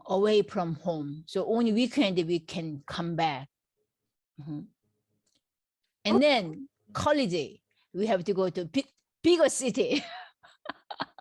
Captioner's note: laughs